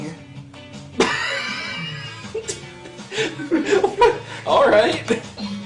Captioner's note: laughs